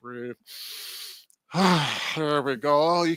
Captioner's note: breathing